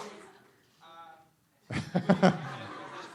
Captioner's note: laughter